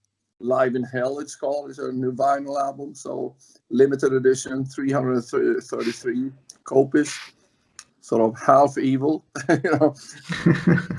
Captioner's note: laughs